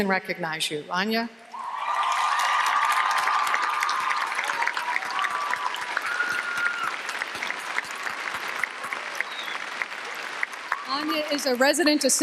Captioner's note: applause